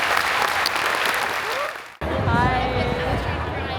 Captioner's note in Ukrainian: оплески